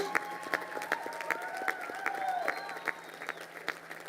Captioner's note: crowd applauding